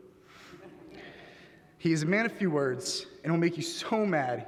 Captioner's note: laughter